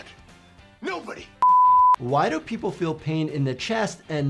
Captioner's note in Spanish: pitidos de transmisión